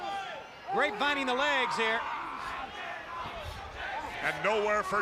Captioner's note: crowd chatter